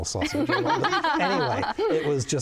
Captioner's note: laughing